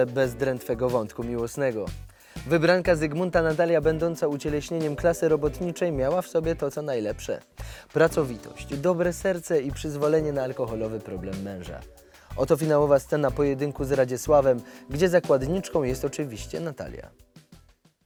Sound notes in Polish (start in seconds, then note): none